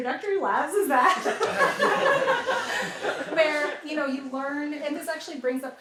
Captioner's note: laughter